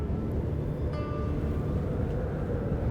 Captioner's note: wind howling